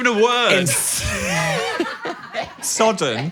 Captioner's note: Dan and crew laughing